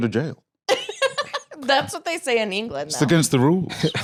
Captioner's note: laughs